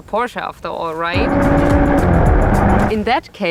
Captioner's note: motor sound